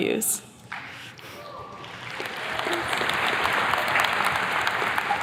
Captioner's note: attendees clapping